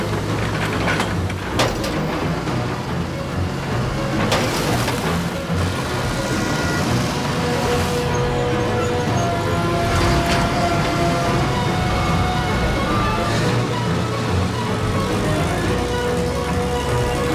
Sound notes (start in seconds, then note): 7.0 construction machines rumbling